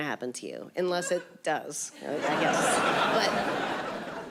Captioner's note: audience laughing